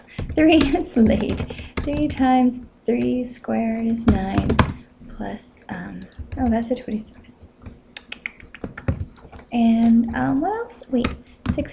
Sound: clicking tongue

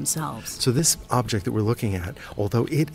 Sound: voiceover

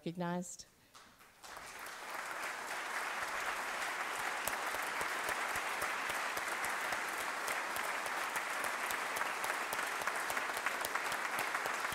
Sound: applause

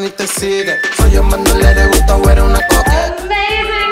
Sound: beeping

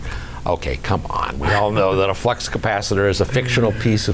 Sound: laughs

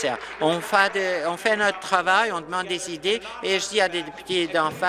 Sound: applause

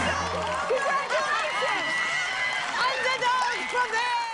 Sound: cheers and applause

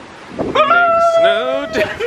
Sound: screaming

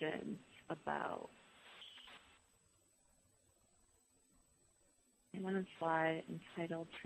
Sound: pause

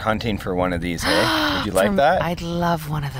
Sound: gasps

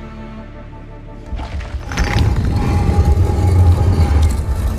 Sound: door opens

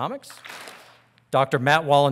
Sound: audience claps

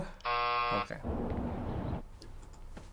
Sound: buzzer; birds tweeting

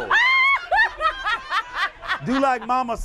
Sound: laughter

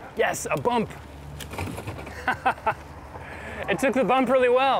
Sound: laughs

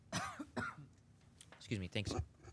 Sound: coughing

